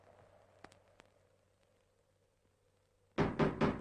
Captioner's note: knocking continues